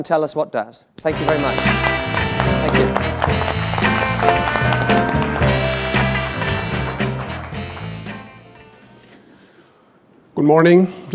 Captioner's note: applause and music